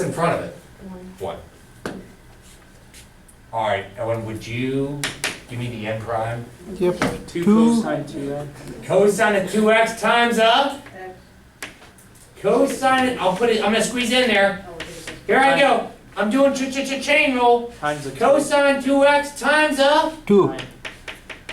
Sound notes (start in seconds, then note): 7.4 voiceover; 11.5 voiceover; 15.5 voiceover; 20.6 voiceover